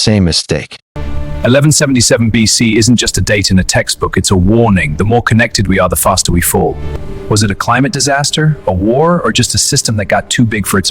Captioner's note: SFX: Deep cinematic bass drop